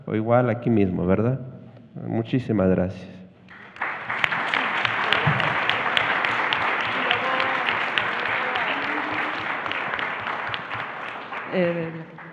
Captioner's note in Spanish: Aplausos